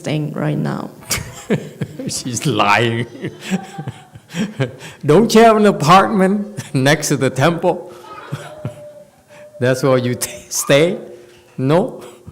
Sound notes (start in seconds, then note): 1.1 laughs